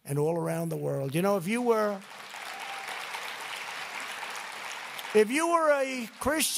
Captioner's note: applause